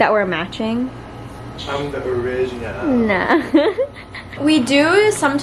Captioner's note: laughs